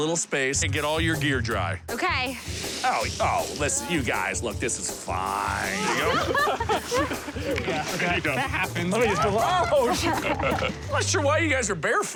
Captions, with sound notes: and get all your gear dry. - Okay. - Oh, listen, you guys. Look, this is fine. There we go. [laughter] - Okay, that happens. - Oh! - I'm not sure why you guys are barefoot.